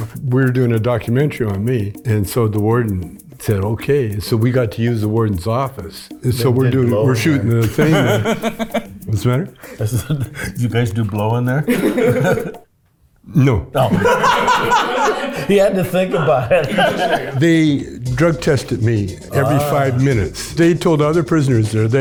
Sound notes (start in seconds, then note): 6.2 Chong laughs; 11.4 group laughs; 15.0 group laughs